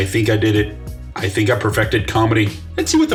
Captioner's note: sarcastically